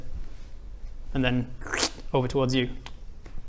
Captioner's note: slurp